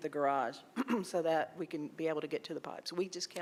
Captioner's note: clears throat